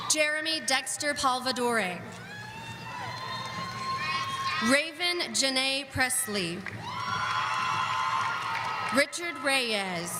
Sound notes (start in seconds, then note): 6.2 audience cheering